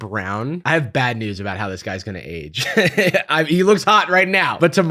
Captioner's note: laughs